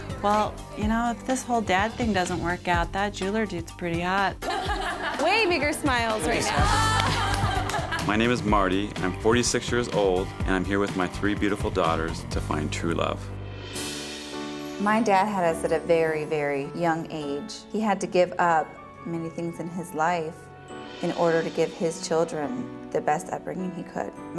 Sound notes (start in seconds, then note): 4.4 everyone laughing; 6.5 women laughing